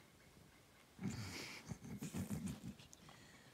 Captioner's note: snorts